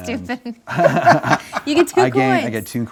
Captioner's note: laughs